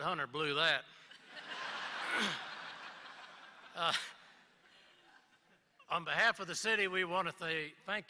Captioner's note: laughter